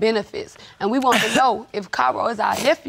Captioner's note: sobs